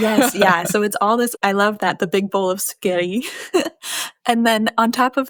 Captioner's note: chuckles